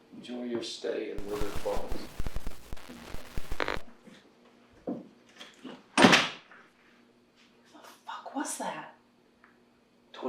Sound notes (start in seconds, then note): 1.2 static hisses; 6.5 door slams